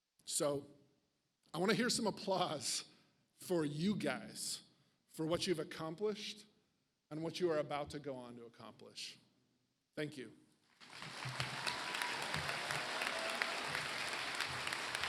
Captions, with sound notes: So I want to hear some applause for you guys for what you've accomplished and what you are about to go on to accomplish. Thank you. (audience applauds)